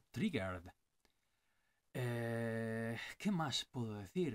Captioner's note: hurrrhh